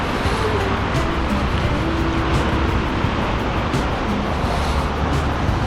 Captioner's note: wind Blowing